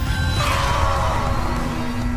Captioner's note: pained screaming